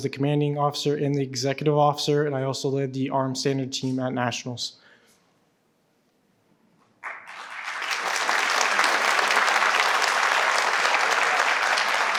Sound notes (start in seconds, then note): 7.0 participants clap